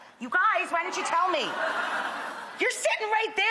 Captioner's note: audience laughing